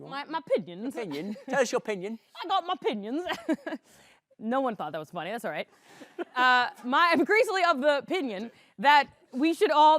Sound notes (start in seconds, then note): 1.3 cockney accent; 3.5 chuckles